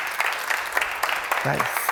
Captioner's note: applause